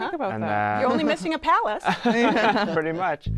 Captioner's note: laughter